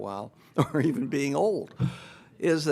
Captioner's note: laughing